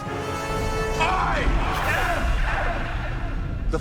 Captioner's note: echoes